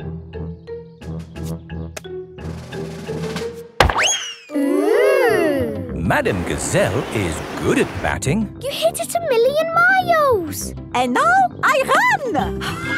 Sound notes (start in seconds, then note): 3.9 bang